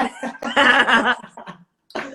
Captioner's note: laughs